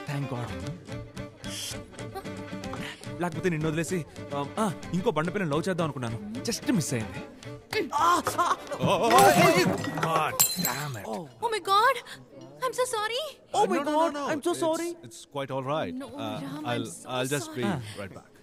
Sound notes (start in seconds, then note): 9.0 Glass shatters